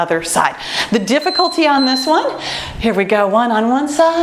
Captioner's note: timer beeps